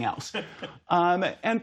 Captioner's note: laughter